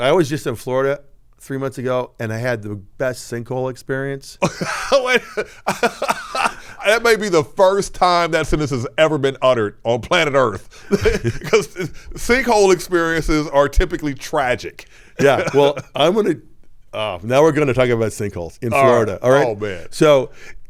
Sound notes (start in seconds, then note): 4.4 laughing